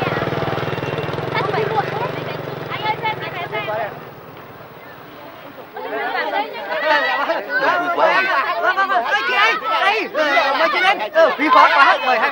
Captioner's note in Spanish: gente hablando ruidosamente